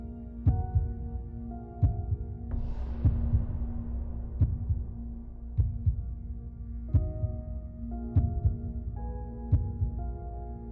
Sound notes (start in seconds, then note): 2.2 door thuds